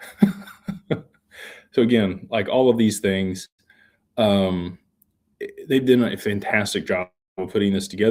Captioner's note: laughter